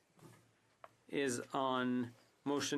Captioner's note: speaking French